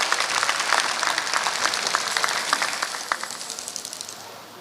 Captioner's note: applause